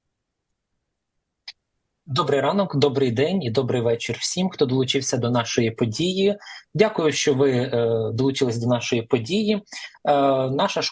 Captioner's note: foreign language